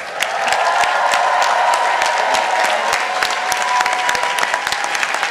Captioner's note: participants applauding